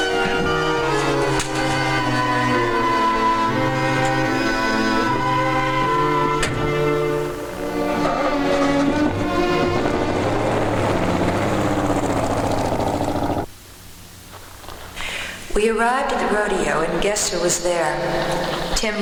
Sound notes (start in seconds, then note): 0.2 dramatic music; 6.5 car door thudding; 9.1 car engine revving